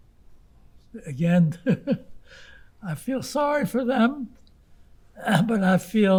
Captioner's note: laughing